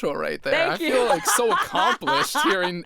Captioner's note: laughs